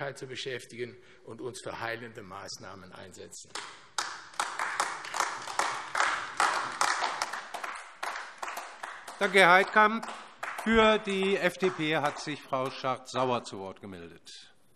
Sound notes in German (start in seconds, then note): 5.8 Beifall AfD